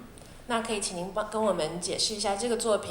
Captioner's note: Mandarin